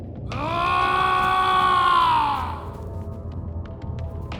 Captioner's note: yelling